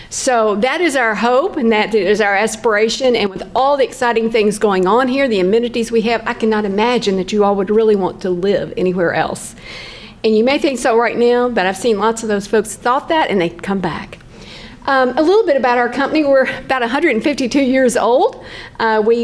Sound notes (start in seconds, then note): none